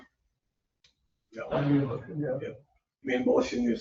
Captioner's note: people chattering indistinctly